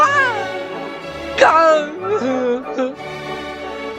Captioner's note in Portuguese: Sons sincronizados de mico-leão com tontura